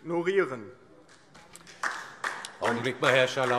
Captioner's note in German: Beifall - Unruhe